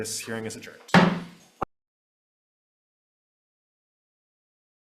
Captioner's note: gavel banging